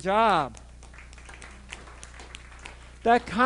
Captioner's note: audience applauding